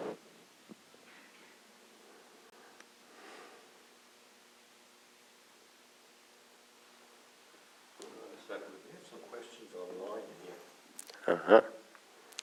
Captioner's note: silence